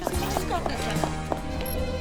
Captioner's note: awkward murmurs; tracking beeps